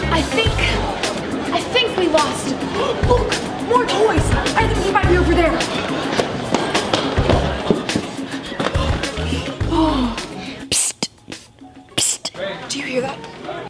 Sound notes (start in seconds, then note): 9.6 girls sigh